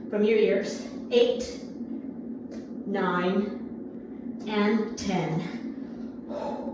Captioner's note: exhales sharply